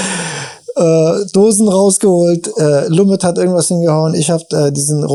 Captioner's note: laughs